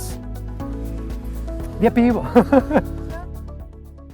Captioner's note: laughter